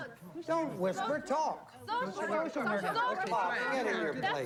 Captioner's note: all chattering